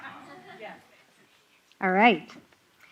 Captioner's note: laughter